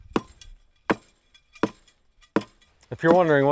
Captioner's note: post rammer pounding